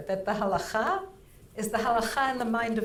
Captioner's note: speaking in foreign language